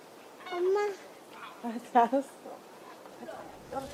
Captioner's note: speaks Korean